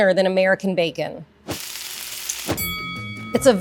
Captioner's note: pan sizzling; bell rings; upbeat music